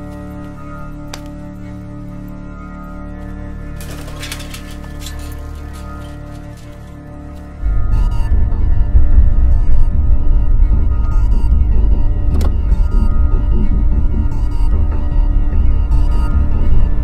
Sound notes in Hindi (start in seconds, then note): 3.7 साइकिल की गड़गड़ाहट